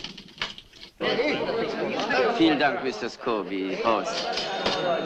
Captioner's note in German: plappern